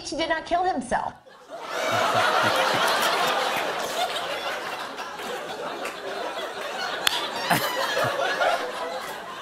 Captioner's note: laughter